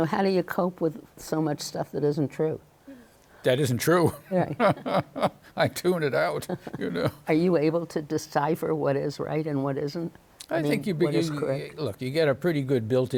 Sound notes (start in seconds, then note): 4.0 laughs; 7.3 chuckles